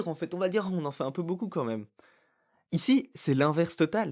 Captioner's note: bri'ish accent